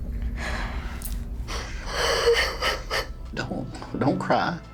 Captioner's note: crying